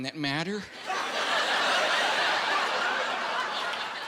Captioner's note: laughing